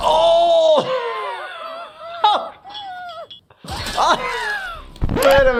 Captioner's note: laughing; toothy grunting